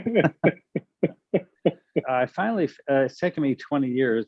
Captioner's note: chuckles